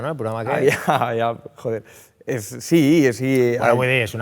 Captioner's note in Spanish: riendo